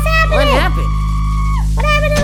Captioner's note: townsfolk screaming